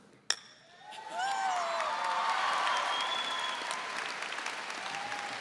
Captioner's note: audience cheering and applauding